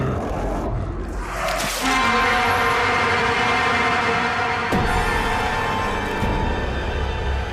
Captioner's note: sudden ominous music; monster growling